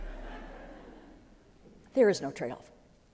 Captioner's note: laughter